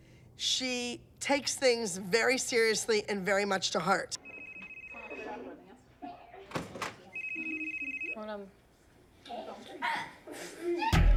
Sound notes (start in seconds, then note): 4.1 phone ringing